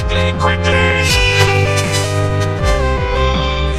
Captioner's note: falcon screeching